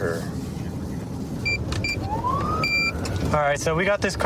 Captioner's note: buttons beeping